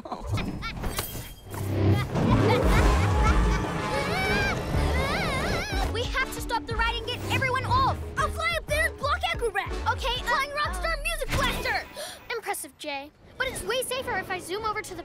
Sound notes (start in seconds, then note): 1.7 evil laughter; 2.7 screaming